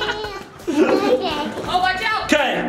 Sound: laughing

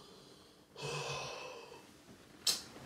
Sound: deep breath

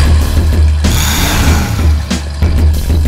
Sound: engine revs

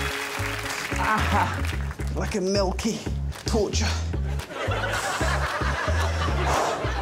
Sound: crowd cheering and applauding; exhales

